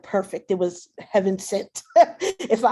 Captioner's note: laughs; chuckles